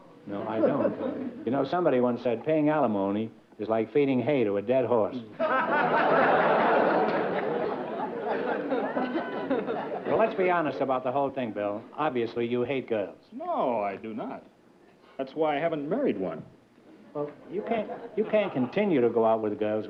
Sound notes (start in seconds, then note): 5.3 laughter